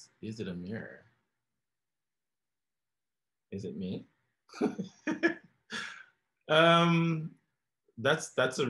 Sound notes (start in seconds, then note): 4.6 laughs